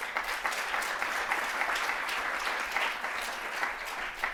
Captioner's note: audience applauding